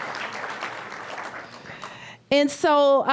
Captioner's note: applause